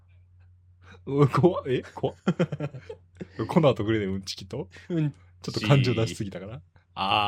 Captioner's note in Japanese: 笑い